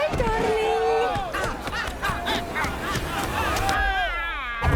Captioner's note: mob shouting